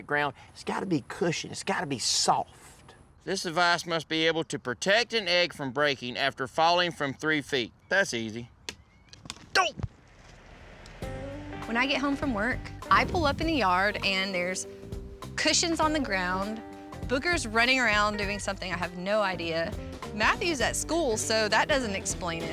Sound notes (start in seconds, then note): 9.1 crack